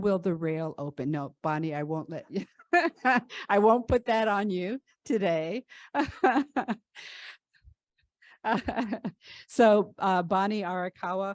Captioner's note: laughter